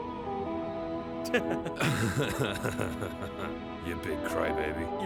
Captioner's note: laughing